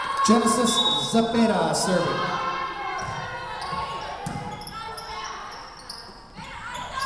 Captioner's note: whistle blowing